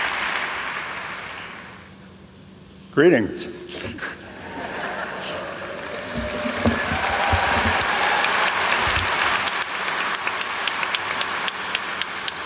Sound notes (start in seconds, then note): 3.8 laughs; 6.0 audience applauds